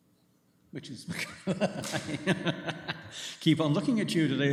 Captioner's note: laughs